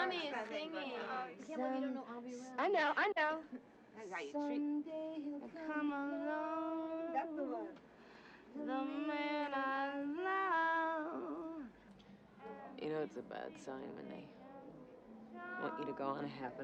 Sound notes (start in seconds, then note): none